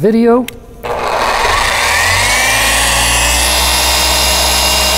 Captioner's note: tool engine running